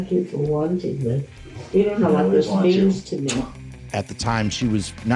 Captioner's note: kiss smack